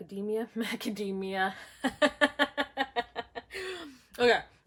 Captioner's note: laughing